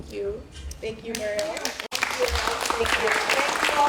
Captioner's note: applause